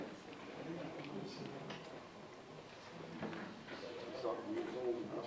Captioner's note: audience chatting indistinctly